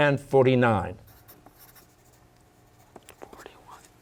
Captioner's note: pencils scribbling; whispering